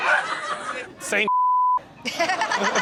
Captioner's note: beep; Chanel laughs